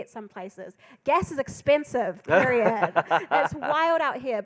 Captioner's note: laughing